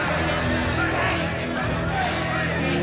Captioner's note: prisoners chant